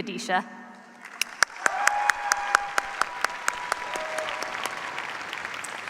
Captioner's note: cheers, applause